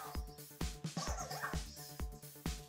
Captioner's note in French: Cozmo parle robot